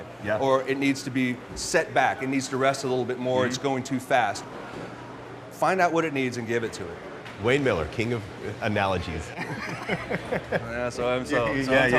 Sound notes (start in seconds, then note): 9.4 laughing